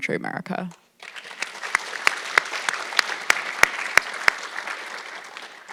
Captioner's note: audience clapping